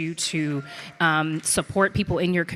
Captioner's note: audience clapping